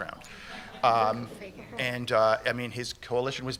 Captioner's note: laughter